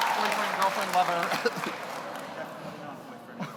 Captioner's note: audience applauds; audience cheers; laughs